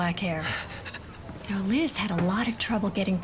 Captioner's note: Katie laughs